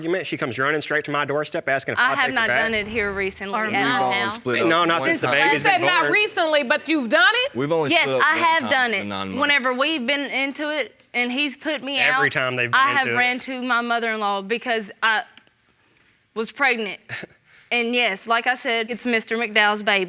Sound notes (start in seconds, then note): 14.3 scoffs